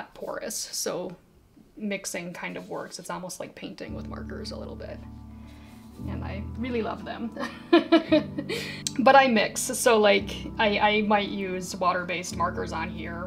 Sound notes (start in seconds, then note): 7.0 laughing